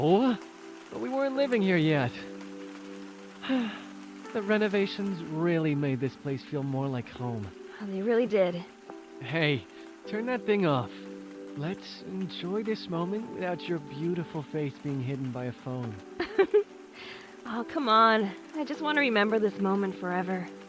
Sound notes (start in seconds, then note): 3.4 happy sigh; 16.2 laughs